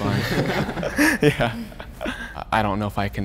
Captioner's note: group laughing